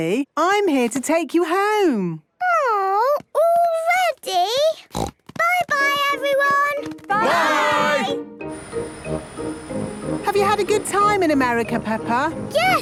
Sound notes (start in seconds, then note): 4.8 snort